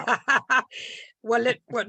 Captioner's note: chuckling